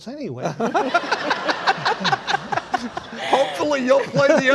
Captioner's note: laughing